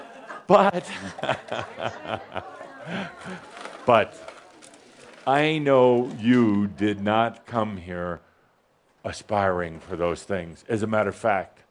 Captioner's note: Adamus chuckles